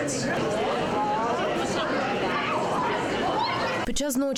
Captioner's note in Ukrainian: Чути шум натовпу